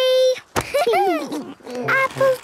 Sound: laughter

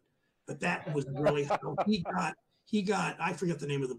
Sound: laughs

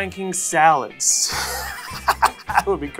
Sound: laughs

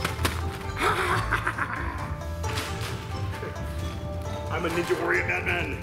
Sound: splat; evil laughter

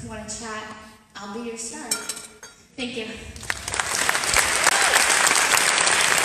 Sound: applause

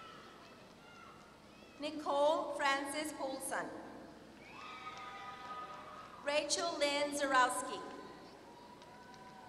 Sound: applause

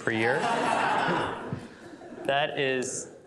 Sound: laughter

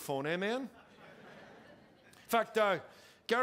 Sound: congregation laughing

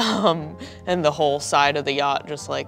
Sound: none

